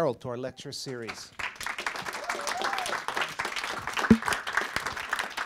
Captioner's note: audience applauding